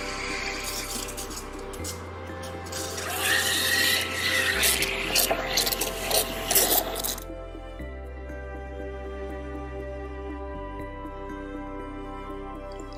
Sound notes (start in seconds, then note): 0.0 coffee maker roaring; 0.2 machine sputtering; 2.6 boiler wheezing; 4.7 milk sputtering